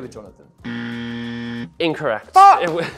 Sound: loud buzzer

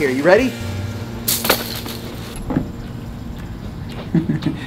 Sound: hoop clatters; chuckles

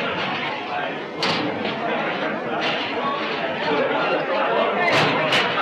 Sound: chatter

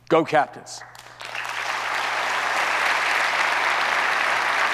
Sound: audience applauds

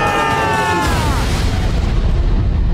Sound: screaming; thudding

